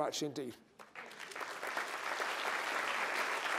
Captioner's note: applause